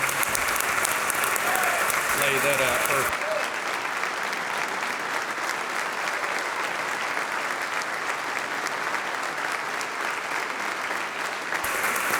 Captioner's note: applause